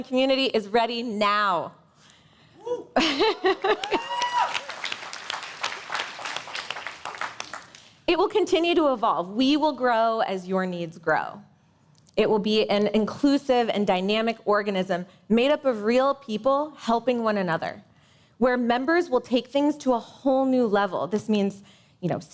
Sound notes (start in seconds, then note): 6.6 cheers and applause